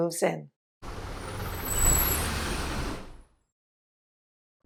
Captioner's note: engine sound